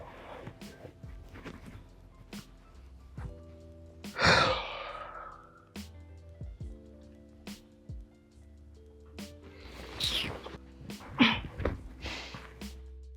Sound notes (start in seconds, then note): 4.1 sighs; 9.9 sucks teeth